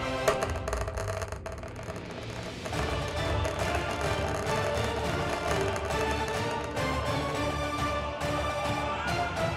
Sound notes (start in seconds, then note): 0.2 dice clacking